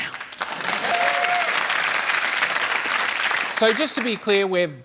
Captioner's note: applause